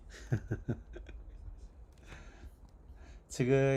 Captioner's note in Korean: 웃음